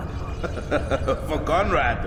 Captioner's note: laughs